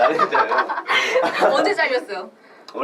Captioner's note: laughs